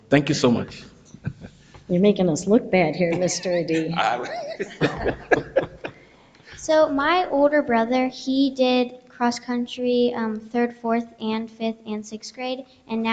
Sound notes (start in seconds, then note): 3.0 people chuckle